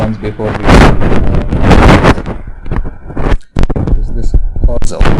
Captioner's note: static muffling speaker